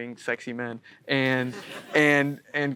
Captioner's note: audience chuckling